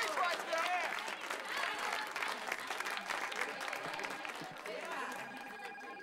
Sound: telephonrie nging

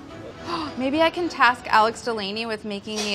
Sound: gasps

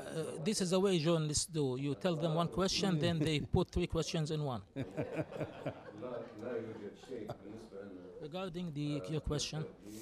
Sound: laughter

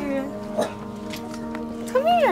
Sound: bark

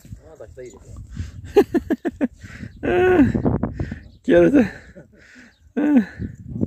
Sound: laugh

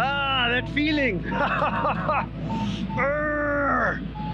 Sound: laughs; grunts

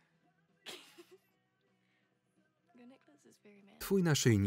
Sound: laughs loudly

